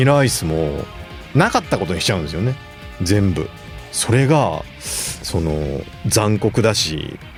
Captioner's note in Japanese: 鼻息